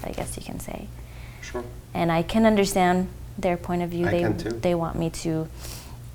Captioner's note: laughs